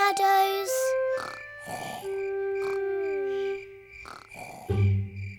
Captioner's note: george snoring